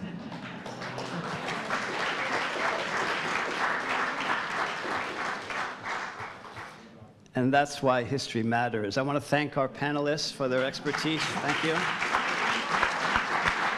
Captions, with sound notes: (audience applauding) And that's why history matters. I wanna thank our panelists for their expertise. (audience applauding) Thank you.